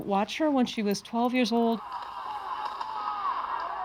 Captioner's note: gunshots and shouting